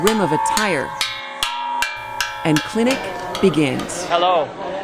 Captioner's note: hear bell